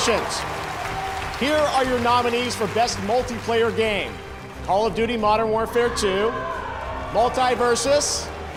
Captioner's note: cheers and applause